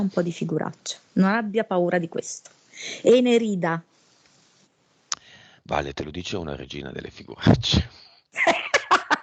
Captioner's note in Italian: Risate